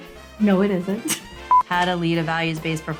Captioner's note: laughs